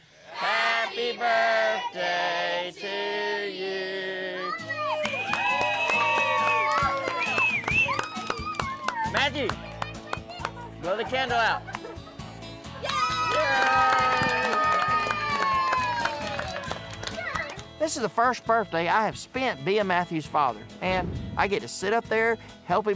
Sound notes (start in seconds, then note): 4.7 cheering, clapping; 12.8 cheering, applause